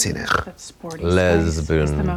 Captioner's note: Katya snorts